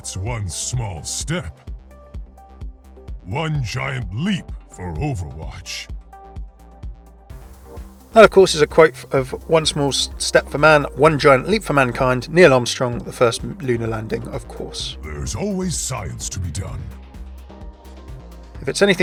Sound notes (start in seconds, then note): 0.4 voiceover; 8.3 voiceover; 15.4 voiceover